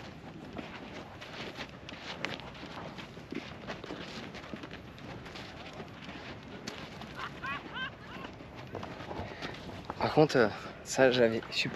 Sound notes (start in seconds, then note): 0.0 footsteps; 2.2 laughing